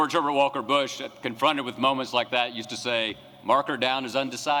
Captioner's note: texas accent